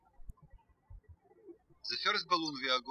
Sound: birds chirping

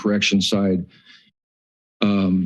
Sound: pause

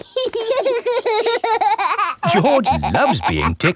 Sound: laughing

